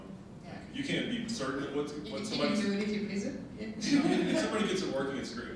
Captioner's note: laughing